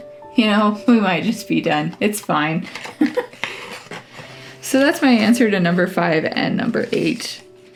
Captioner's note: laugh